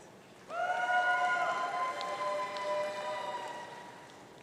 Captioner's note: audience cheering